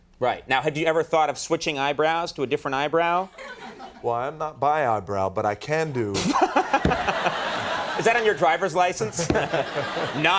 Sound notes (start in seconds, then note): 6.2 Conan and audience laughing; 9.0 audience laughing